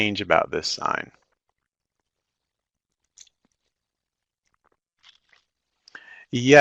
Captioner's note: no sound - waiting for comments in chat